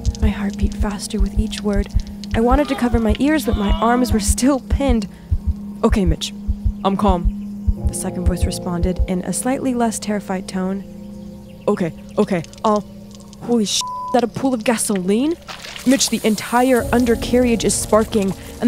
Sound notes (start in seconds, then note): 13.8 beep